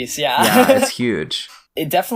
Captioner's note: laughs